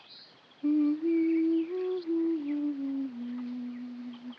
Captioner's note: resumes humming